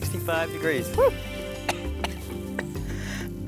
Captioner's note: coughs